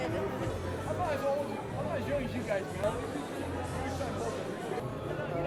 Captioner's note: attendees chattering